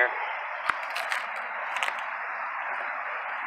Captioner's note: footsteps on rocks